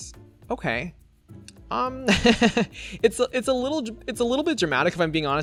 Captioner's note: laughs